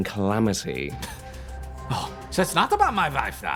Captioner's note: scoffs